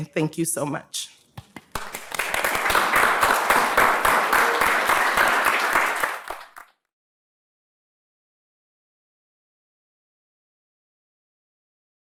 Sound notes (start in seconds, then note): 1.7 audience applauding